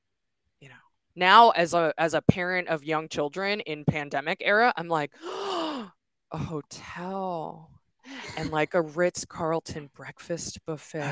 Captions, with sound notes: now, as a parent of young children in pandemic era, I'm like (gasps) a hotel, and a Ritz Carleton breakfast buffet!